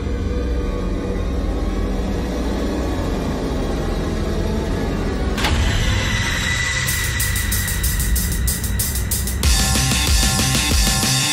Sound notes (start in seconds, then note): 0.3 intense music buildup; 5.2 cabinet slam